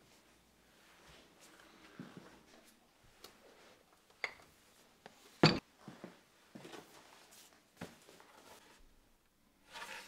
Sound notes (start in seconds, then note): 5.4 dumbbell thuds